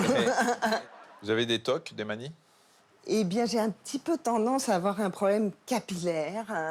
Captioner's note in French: rires